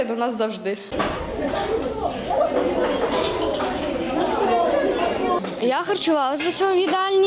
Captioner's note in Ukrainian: шум розмов дітей